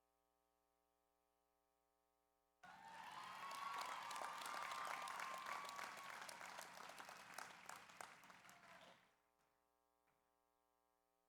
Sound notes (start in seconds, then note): 2.6 audience cheers; 2.6 audience applauds